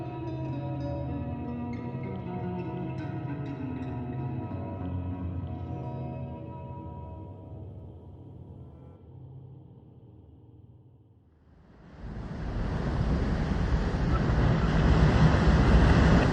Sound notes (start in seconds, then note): 11.9 water rushing